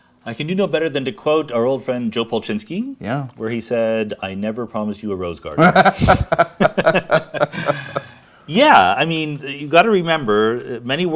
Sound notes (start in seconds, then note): 5.6 both laughing